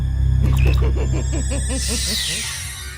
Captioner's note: cackling